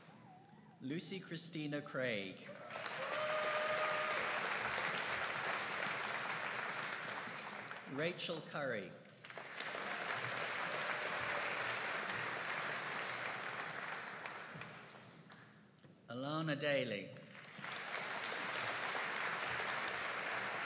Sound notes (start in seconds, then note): 2.5 audience cheering and applauding; 9.2 audience cheering and applauding; 17.3 audience applauding